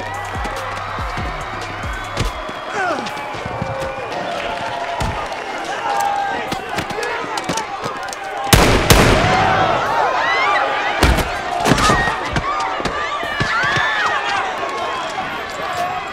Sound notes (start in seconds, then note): 0.2 chaotic crowd screaming; 7.6 click; 8.5 two gunshots; 9.3 screaming